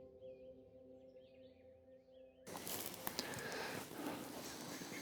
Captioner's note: birds chirping